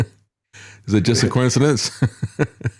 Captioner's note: laughs